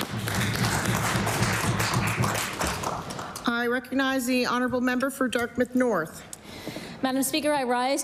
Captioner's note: applause